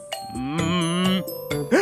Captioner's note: gasps